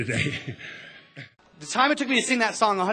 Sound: laughs, Crowd cheers

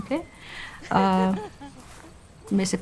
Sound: laughing

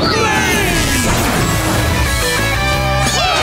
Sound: whooshing

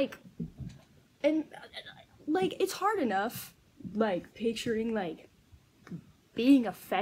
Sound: stuttering goblin noises

